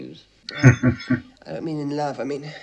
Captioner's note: chuckling